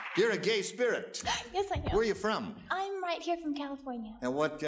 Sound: gasps

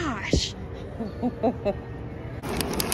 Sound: mom laughs

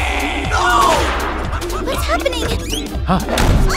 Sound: laughing heard in the background

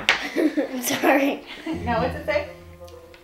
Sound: giggling

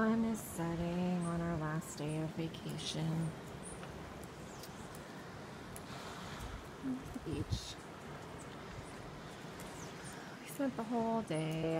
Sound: bird sounds, wave sounds

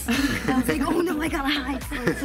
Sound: people laughing

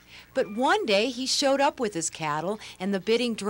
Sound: none

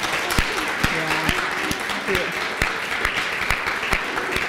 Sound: applause

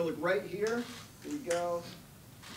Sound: cameras shuttering

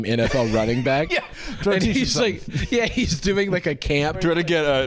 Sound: wheezes

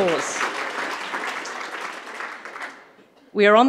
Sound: audience applauding

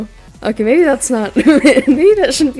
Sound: laughs

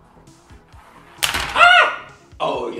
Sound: screams

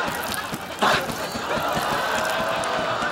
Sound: wings flapping

